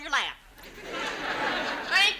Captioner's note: audience laughs